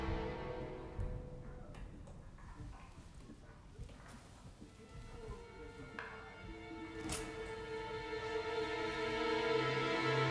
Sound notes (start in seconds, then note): 6.9 lock clicks